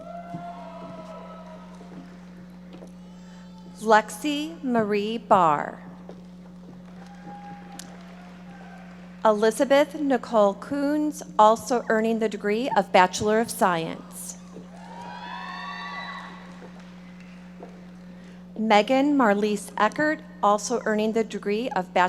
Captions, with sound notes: (audience applauding) Lexie Marie Barr. (audience applauding) Elizabeth Nicole Coons, also earning the degree of Bachelor of Science. (audience members shouting) Meghan Marlise Eckart, also earning the degree